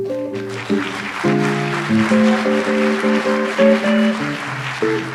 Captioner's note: audience applauds